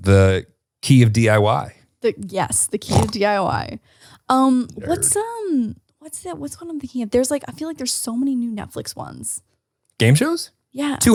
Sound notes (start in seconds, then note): 4.8 snorts